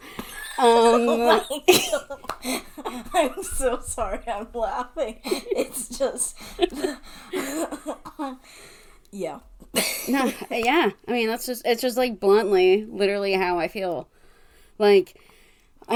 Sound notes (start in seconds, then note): 0.7 laughs; 5.0 laughs, changes to serious tone